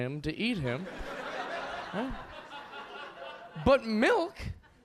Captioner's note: audience laughing